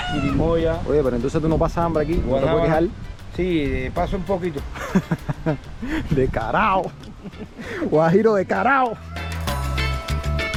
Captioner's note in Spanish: risas